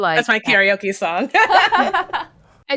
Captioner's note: laughs